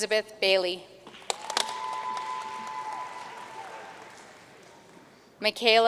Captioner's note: audience cheering and applauding